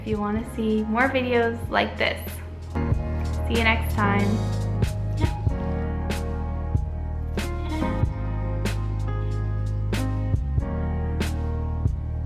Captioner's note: creepy effects